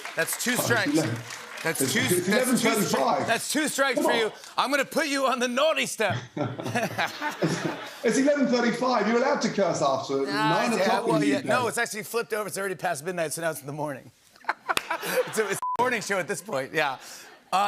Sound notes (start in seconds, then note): 6.1 laughter; 14.4 laughter